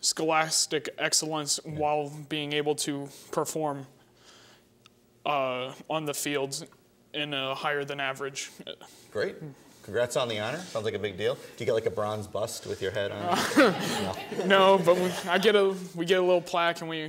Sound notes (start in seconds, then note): 13.2 laughing